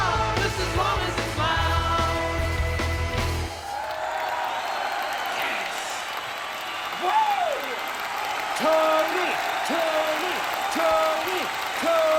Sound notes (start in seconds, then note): 3.5 imaginary audience applauding and cheering; 7.0 Tony screams